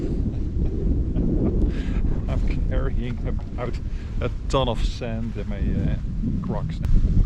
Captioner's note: laughter